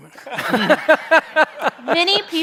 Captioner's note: chuckles